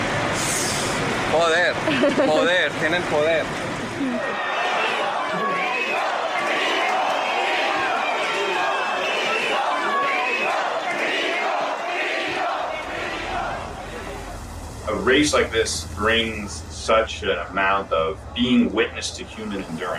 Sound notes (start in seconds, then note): 4.7 crowd; 5.1 chanting